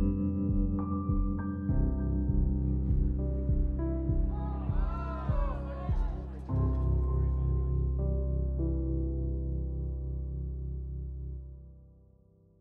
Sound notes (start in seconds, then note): 4.3 oohs and ahs from crowd